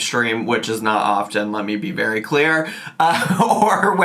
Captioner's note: chuckles